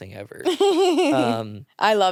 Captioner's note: laughs